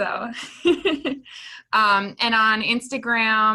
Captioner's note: laughing